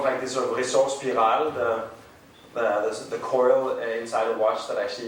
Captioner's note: speaking in foreign language